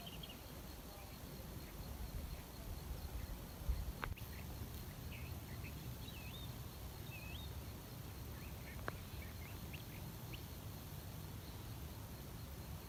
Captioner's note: birdsong in background